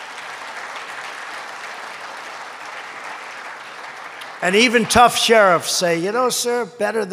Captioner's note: applause